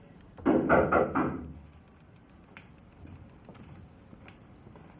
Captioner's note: Sala knocks